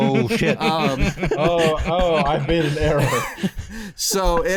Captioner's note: laughter